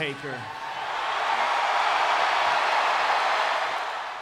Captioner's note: crowd cheers